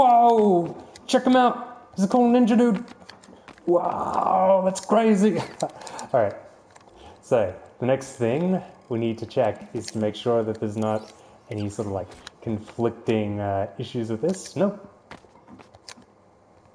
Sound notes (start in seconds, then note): 5.2 haha